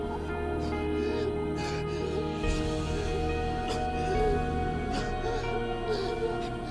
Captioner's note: gentle music; Matt gasping